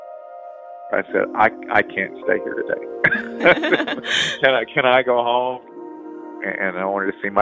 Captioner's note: both laugh